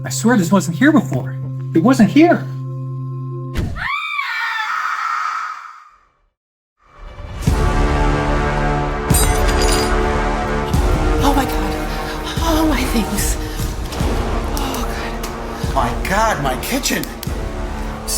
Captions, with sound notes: I swear this wasn't here before. It wasn't here. (woman screaming) (tense music) - Oh my God, oh my God. Oh God. - My God, my kitchen.